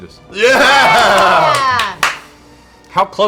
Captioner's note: cheering